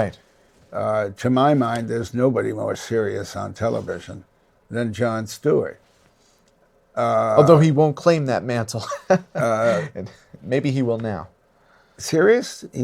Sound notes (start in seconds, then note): 8.8 laughs